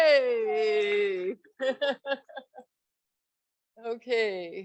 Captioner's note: laughs